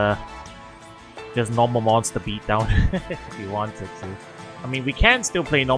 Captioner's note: laughs